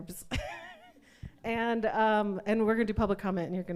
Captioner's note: laughs